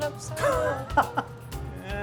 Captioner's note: laughing